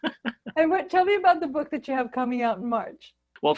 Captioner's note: laughing